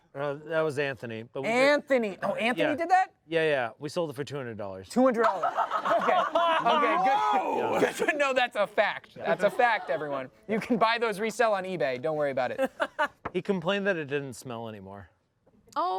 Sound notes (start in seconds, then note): 5.2 everyone laughs